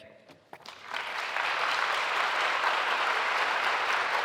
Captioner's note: clapping